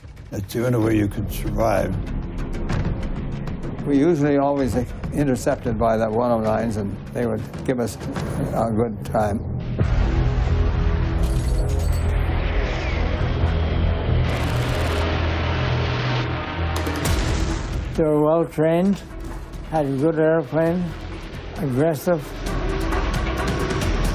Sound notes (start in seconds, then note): 10.0 intense music playing; 13.8 gun firing; 23.9 intense music continues